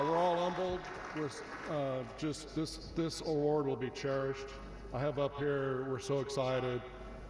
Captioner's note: applause